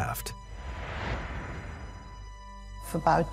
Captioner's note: gentle suspenseful music; air whooshes